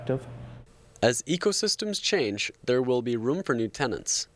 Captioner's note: voiceover